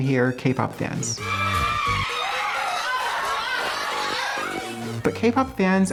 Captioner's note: screaming